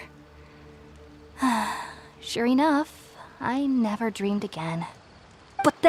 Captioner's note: sigh